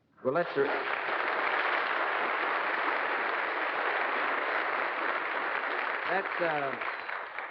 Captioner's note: applause